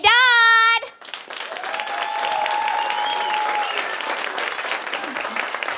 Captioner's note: audience applauding